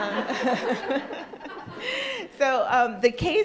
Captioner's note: crowd laughs